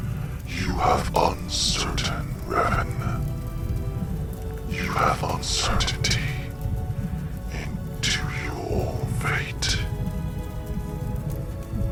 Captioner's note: voice echoed